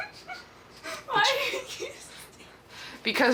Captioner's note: child laughing